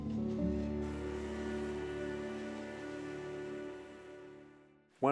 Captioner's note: train whistle